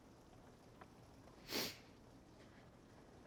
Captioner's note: sniffles